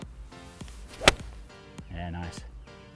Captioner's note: golf ball hits